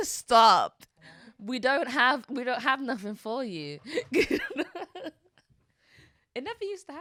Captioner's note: laughs